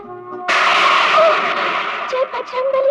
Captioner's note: thunder rumbling